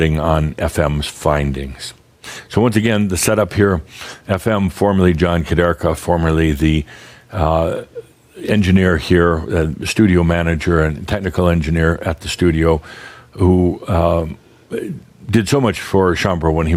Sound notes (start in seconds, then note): none